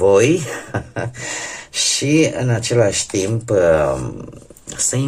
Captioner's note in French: ha ha